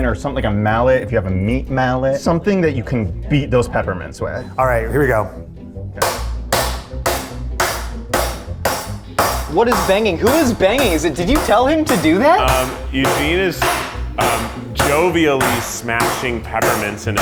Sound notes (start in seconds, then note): 5.7 rolling pin bangs